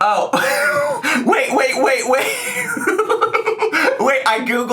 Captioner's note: laughs; giggles